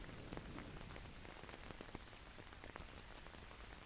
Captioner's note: thunder crackles